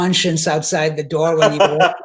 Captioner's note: laughing